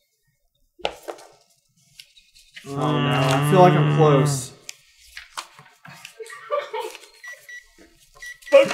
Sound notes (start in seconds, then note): 2.6 grooooooooan; 6.0 renewed fit of giggles; 7.1 gentle beeping